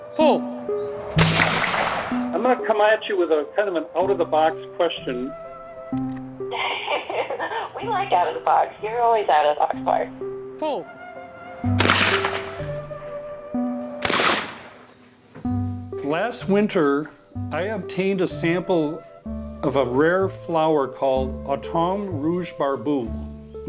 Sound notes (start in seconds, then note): 1.0 shot firing; 11.7 shot firing; 13.1 gentle music